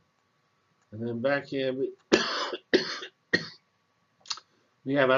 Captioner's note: cough